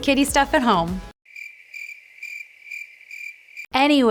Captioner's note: crickets chirping